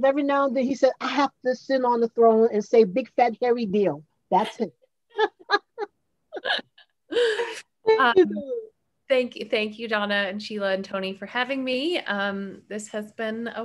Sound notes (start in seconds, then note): 5.1 laughs